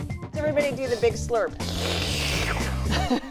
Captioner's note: all pretend slurping; chuckles